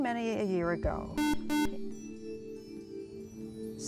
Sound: buzzer

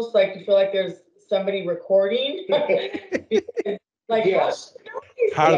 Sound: laughing

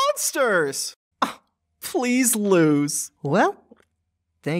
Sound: scoffs

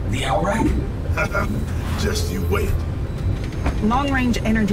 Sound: chuckling

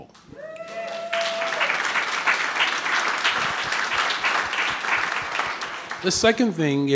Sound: audience cheering and clapping

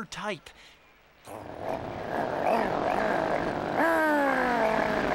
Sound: car revving excitedly

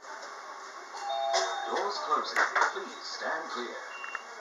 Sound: doorbell

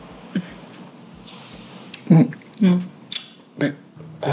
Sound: kisses smacking

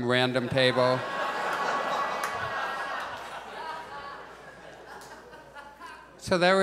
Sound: audience laughs

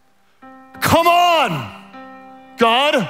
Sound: shouts

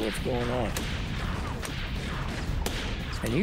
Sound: gunshots

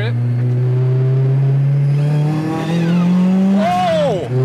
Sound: car engine revving

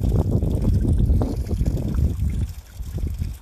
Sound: splash

